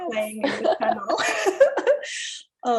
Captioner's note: laughs